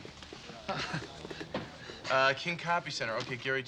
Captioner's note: Michael laughs